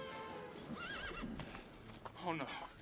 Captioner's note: horse whinnies